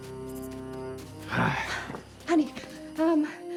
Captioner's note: tense music; Hatfield sighs